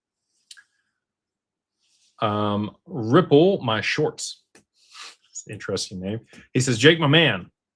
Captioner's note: snorts